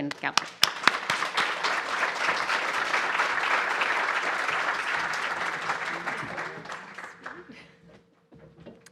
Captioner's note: applause